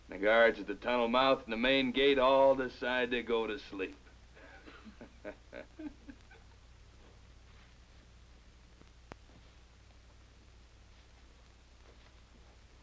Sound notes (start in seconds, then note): 4.4 laughing